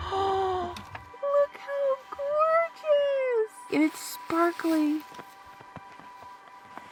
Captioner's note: dramatic Gasp